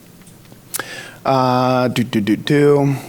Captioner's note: smacks lips